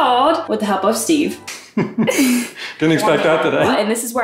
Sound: laughing

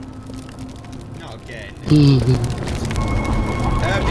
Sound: shlurping

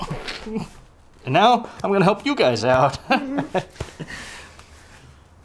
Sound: laughs

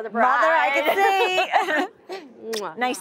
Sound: laughter

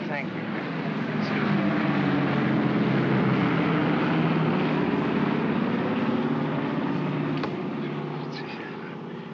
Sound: aircraft roars overhead

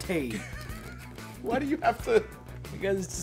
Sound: laugh

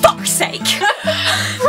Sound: laughs

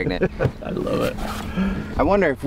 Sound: laughs

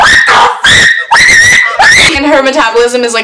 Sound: shrieking

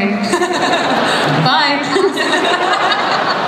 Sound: laughter

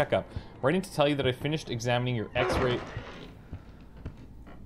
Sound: door closes

